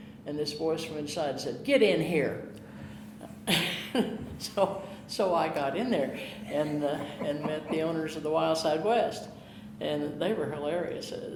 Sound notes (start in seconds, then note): 3.3 chuckling